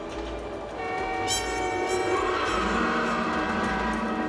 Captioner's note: honking